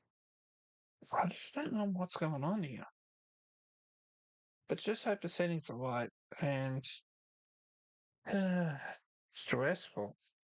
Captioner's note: sigh